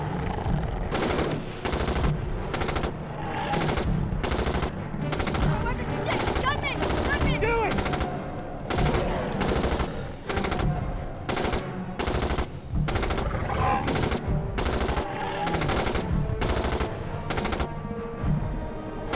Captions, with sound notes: (guns firing) - Gun me, gun me. - Do it! (guns firing)